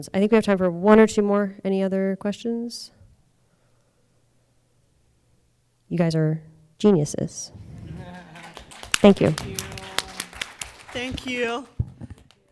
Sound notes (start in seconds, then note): 7.5 audience applauding